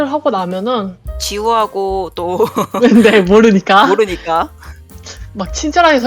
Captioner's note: laugh